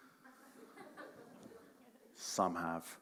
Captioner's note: audience members chuckle